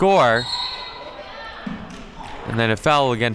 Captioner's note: referee blows whistle